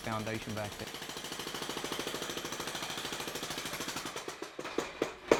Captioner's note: jackhammer drilling